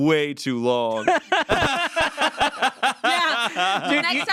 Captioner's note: everyone laughs